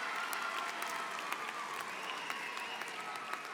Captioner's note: cheers and applause